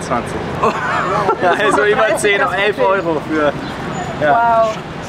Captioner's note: laughs